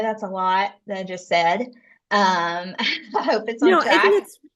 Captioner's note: laughs